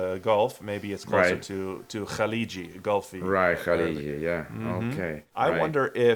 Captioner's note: gulf Arabic